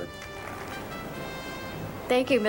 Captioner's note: applause